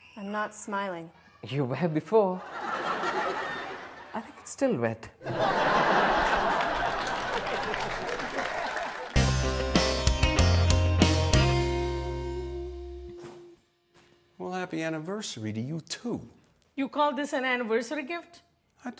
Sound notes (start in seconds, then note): 5.2 audience laughs and applauds; 9.1 upbeat music